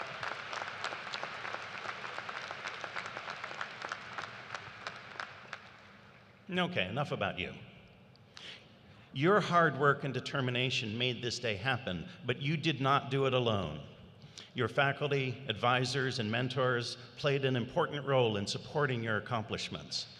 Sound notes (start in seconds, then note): 3.2 applause